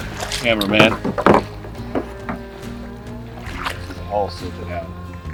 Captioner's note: water splashing